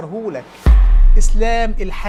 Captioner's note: sound effects